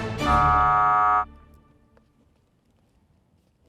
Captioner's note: buzzer sounding